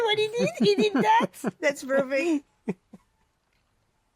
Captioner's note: laughter